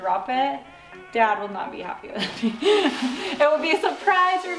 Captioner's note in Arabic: يضحك